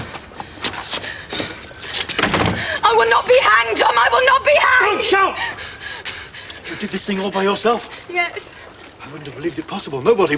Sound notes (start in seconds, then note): 2.0 shouting